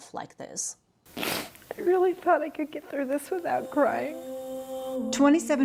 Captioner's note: sniffs